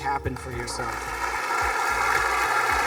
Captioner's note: students clapping